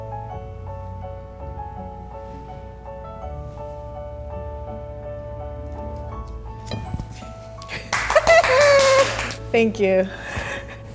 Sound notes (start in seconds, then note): 0.2 gentle music; 7.8 laughs; 7.9 crew claps